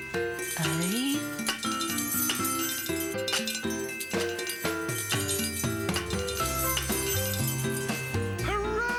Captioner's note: pots and pans clanking